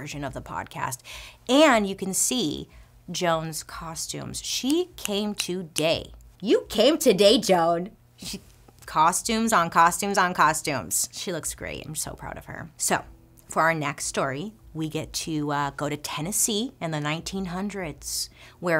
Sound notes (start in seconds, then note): 5.5 snaps fingers